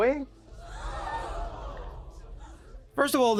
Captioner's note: audience gasping